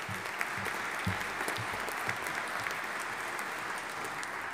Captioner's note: audience applauding